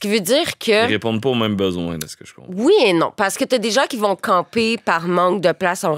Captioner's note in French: none